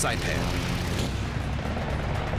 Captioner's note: gunfire